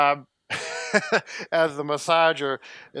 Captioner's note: laughter